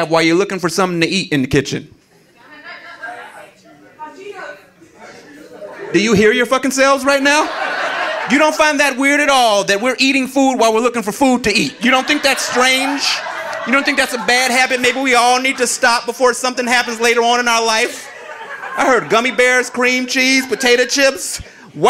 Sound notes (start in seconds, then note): 3.6 audience chattering; 6.8 audience laughing